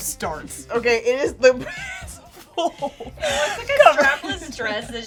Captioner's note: laughs